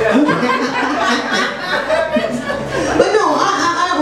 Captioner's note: audience laughs; laughs